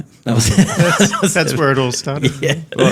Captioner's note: laughter drowns out speaker